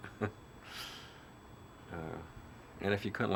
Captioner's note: laughs